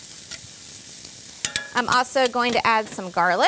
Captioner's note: sizzling